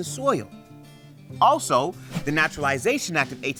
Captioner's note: text whooshes